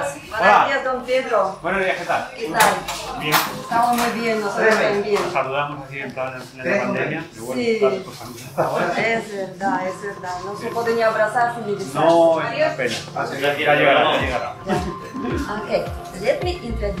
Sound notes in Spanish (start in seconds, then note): 2.1 Ruido de la tienda; 7.7 Ruido de la tienda; 11.0 Ruido de la tienda